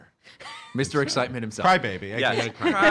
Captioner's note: laughing